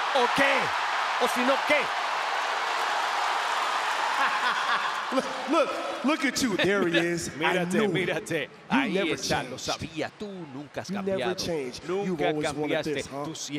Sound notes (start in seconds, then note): 0.0 applause; 6.2 laugh